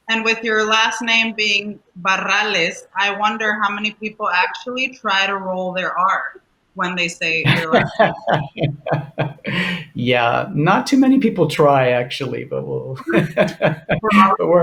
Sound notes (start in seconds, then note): 7.4 laughter